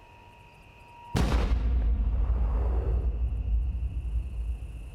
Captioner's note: gun fires